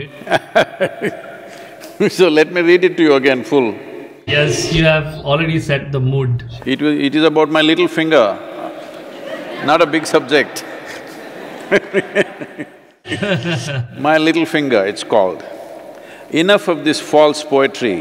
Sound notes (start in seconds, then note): 8.4 few Laugh; 10.5 both laugh